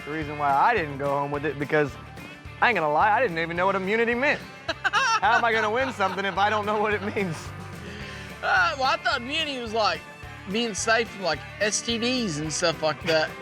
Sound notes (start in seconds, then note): 4.6 laughing